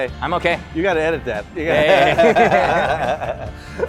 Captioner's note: laughs